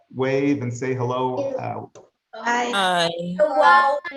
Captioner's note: crowd